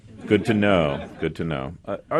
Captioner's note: laughter